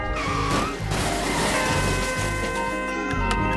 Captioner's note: dramatic music; tires screeching; metal crunching; light jazzy music